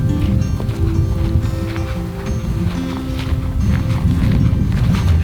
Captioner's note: boots squelching